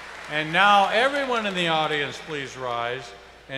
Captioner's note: applause